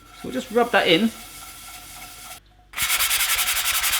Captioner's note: scrubbing